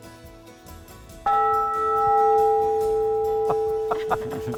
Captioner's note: group laughs; bell reverberates